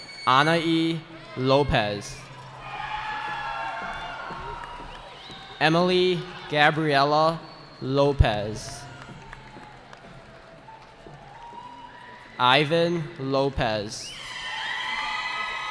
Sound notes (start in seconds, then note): 2.8 cheering; 9.3 cheering